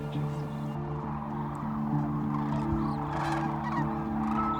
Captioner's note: crane calls